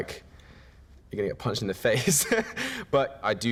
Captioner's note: laughing